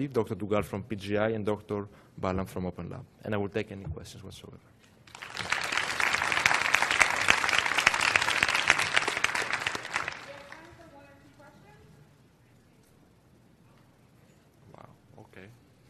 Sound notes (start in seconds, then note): 5.1 clapping